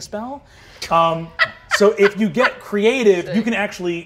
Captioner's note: laughing